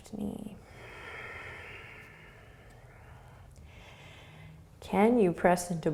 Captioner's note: breathing